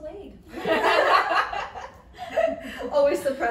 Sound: women laugh

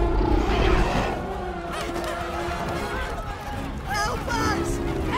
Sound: screaming, Shouting Continue

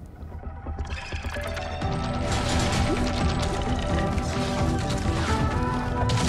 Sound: ethereal music; gun blasting

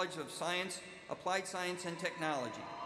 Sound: cheers and applause

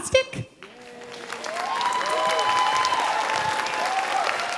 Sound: audience cheering

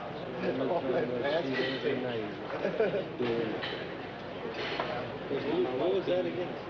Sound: patients chattering; patients laughing

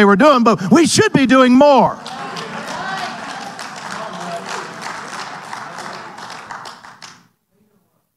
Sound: audience applauding and cheering

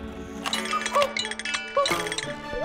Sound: COCK-oo Clock rings

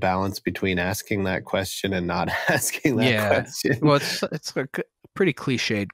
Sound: laughter

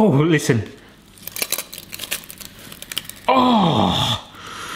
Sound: squelching

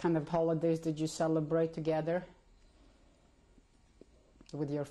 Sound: pauses for 3 seconds

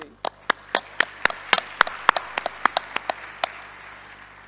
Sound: audience applauding

